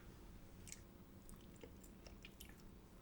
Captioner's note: sound of eating